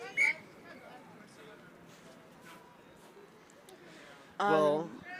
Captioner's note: whistle blows